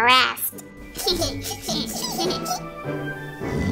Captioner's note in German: kicher